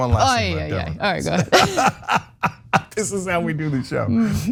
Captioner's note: laugh